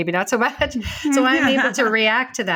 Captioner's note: chuckles